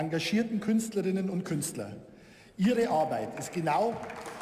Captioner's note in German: Beifall